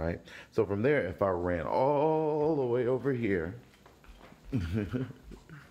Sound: laughs

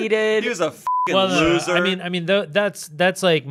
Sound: beep

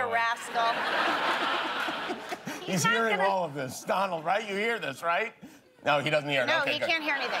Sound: laughter

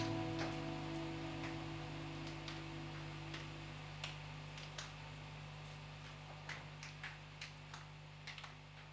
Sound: rain drops

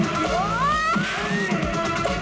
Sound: grunts

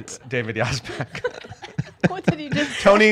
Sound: laughing

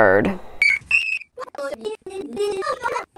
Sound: child's voice sped up

